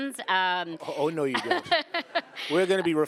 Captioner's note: laughing